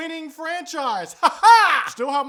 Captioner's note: weird laughing continues